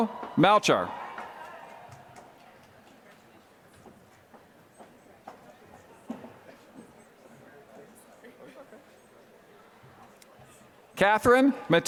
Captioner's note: applause